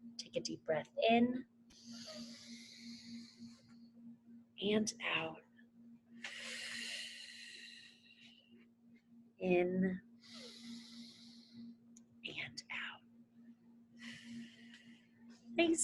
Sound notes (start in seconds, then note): 1.8 inhales; 6.2 exhales; 10.2 inhales; 14.0 exhales